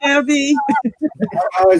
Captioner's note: laughs